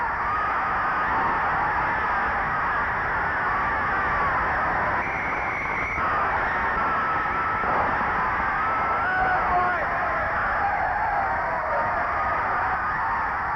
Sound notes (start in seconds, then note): 4.8 referee whistling; 7.5 gun firing; 8.8 crowd cheering